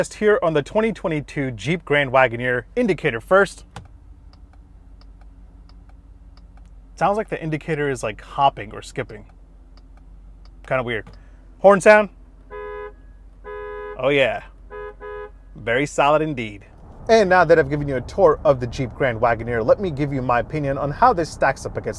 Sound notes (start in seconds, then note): 3.6 indicator clicking; 8.6 indicator clicking; 12.3 horn honking